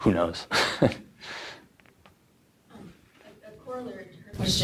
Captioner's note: chuckles